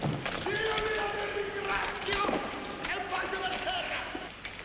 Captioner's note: Captain of SS Nyanga shouting in the background